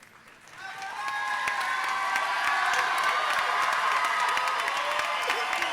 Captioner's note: audience cheering and applauding